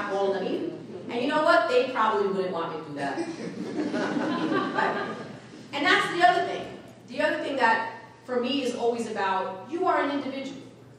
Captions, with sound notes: of all of them either. And you know what, they probably wouldn't want me to do that. (audience laughing) And that's the other thing, the other thing that, for me, is always about, you are an individual